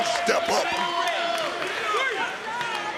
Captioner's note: crowd chattering